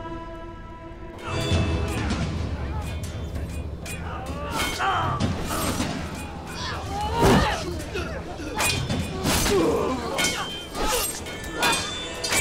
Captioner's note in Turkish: Çarpışma sesleri